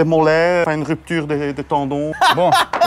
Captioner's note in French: rire